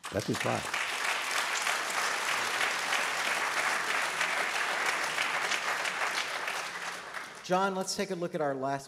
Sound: applause

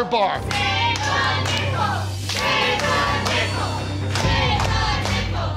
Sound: crowd chanting take the nickel

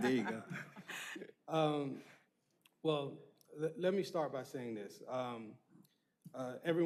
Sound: laughter

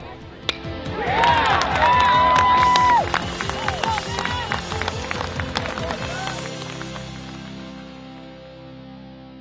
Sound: crack of the bat, shouts of "Yeah!" and applause

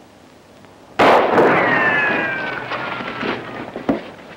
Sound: weapon firing

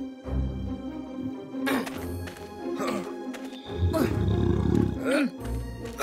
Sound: grunting

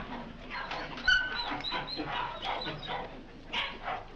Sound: dogs whimpering

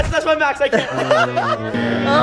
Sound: laughing

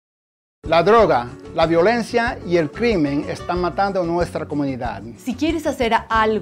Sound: people speak in foreign language

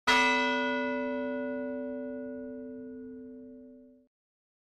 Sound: bell chiming

